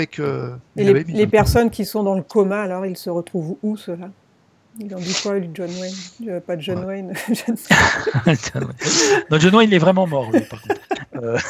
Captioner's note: laughs